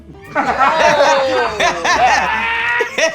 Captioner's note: laughter